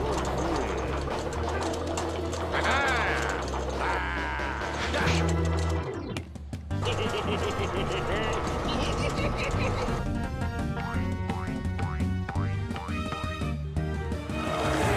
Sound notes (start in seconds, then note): 6.8 giggling